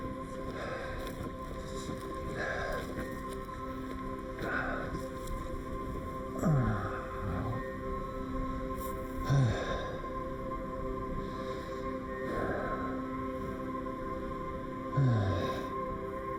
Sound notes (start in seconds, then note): 0.6 Adrian panting